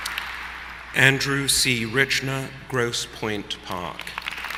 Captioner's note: applause